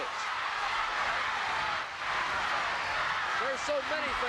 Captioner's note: audience cheering